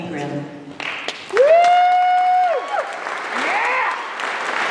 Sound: applause

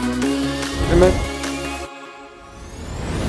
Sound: muffled

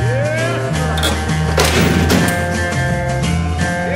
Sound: heavy metal door slams

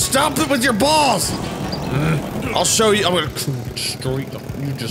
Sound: grunting

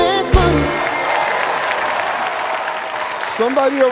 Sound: cheering

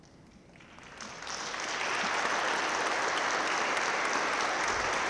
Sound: audience claps

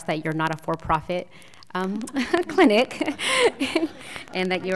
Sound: laughter

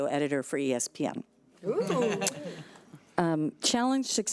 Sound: audience laughing

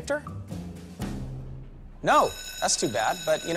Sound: school bell rings

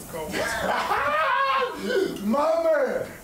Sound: laughing

